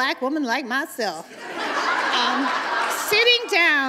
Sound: uproarious laughter

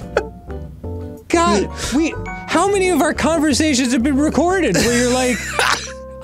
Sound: laughing; laughing

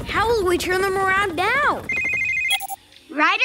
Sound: ringing

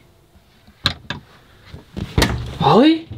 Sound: door Opening

